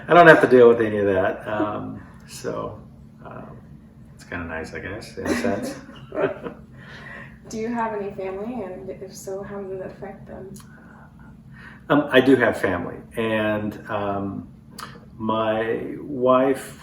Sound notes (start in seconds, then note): 5.2 laughter